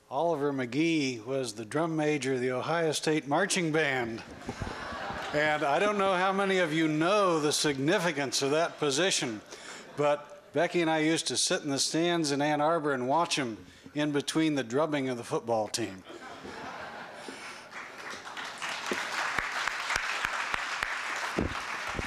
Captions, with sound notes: Oliver McGee was the drum major of the Ohio State Marching Band. And I don't know how many of you know the significance of that position. But Becky and I used to sit in the stands in Ann Arbor and watch him in between the drubbing of the football team. [LAUGHTER] [APPLAUSE]